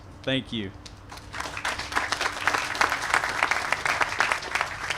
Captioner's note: applause